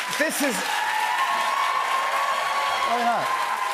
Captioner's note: cheers and applause continue